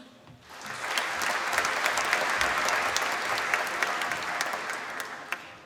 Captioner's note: applause